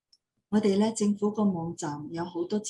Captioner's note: non-english speech